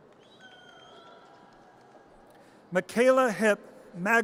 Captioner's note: audience cheers